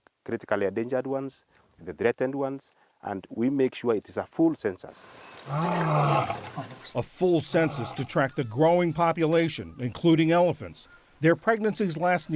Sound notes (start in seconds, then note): 7.5 voice-over